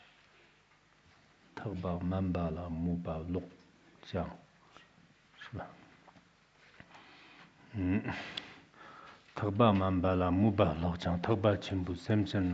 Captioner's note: giving oral transmission in Tibetan